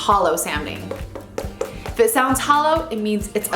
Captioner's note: tapping